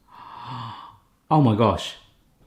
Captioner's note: gasps